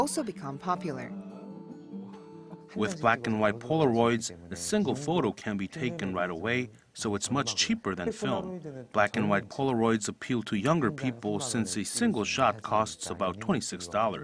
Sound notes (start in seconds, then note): 1.5 Korean